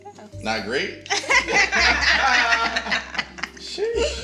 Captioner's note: all laughing